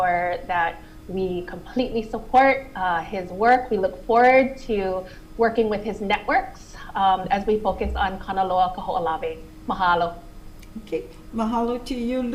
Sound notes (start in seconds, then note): none